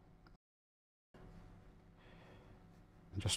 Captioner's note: silence